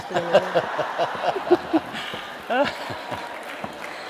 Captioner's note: laughter